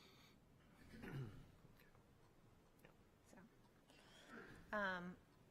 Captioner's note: clears throat